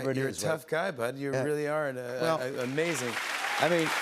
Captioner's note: cheers and applause